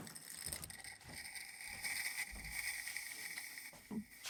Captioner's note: steam releases